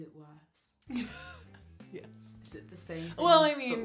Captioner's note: laugh